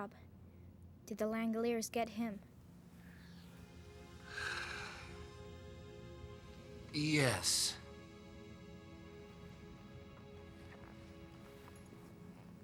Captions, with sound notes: DID THE LANGOLIERS GET HIM ? [ Sighs Deeply ] YES.